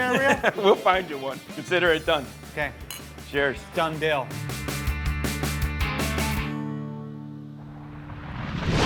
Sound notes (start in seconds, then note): 0.0 laughs; 2.8 glasses clink; 4.6 fast rock music